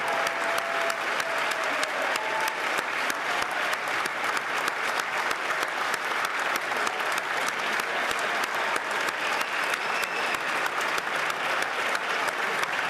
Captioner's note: cheers & Applause